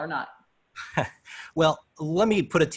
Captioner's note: laughter